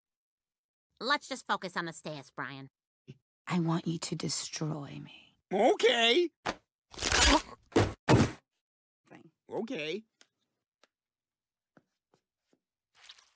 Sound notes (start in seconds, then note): 6.9 bone snapping